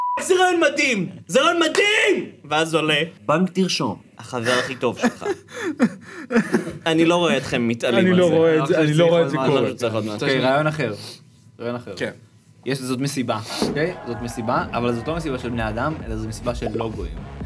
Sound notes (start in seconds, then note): 4.4 laughs